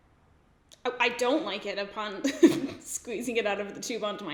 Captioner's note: laughs